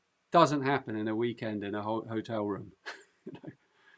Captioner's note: chuckles